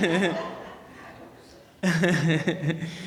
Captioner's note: laughing